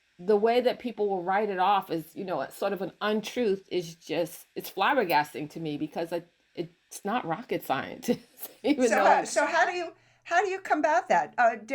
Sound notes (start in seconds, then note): 8.6 laughs